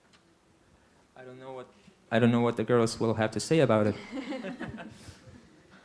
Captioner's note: laughter